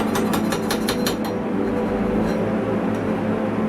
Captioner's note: metal grinding metal